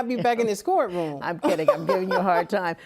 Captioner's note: laughs